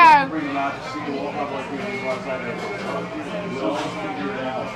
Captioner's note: patrons chattering